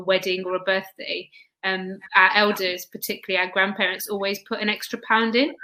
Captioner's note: erm